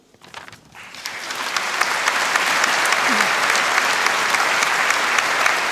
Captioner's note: applause